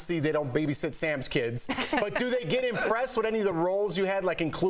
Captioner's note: laughter